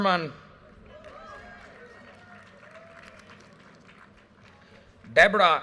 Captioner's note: audience cheers and applause